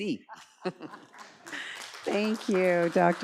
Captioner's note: audience applauds